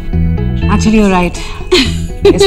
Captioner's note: Vandy laughing